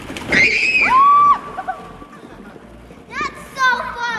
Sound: squeals; shouts and laughs

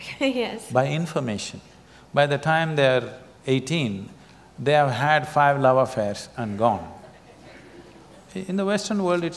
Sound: laughter

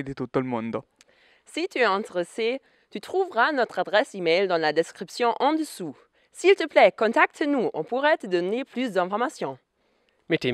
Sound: French

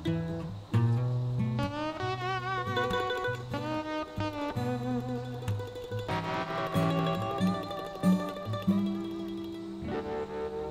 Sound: wind blowing

